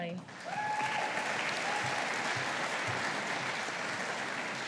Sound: audience applauding

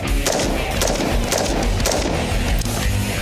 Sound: gunshots

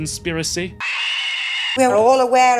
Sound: eldritch screams

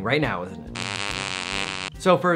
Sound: fart noise

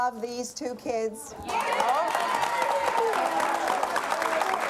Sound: applause

